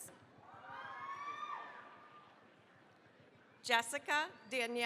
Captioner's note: cheering, applause